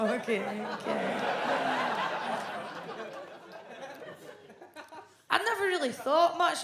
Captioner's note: audience laughs